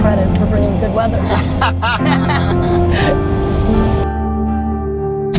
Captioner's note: group laughter